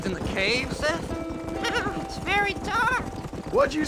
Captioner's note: laughing